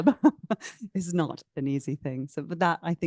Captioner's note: laughs